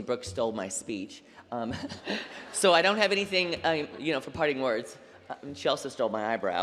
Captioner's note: laughter